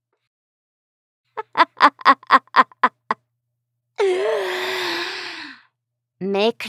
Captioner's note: Dorothea briefly laughs in elated glee